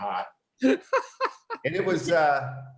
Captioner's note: laughing